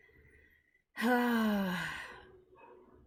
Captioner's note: sighs